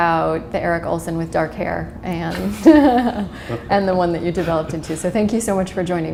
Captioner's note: chuckle